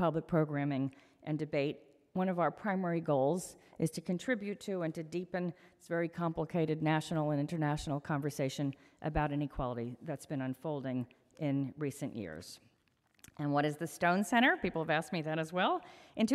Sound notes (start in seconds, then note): none